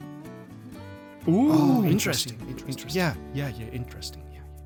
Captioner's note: excited murmer